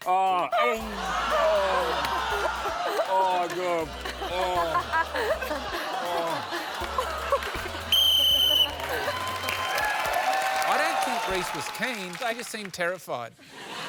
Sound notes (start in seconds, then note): 0.7 laughter; 7.8 whistle blows; 8.7 cheering and applause